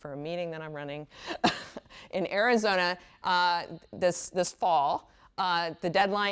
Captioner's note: laughs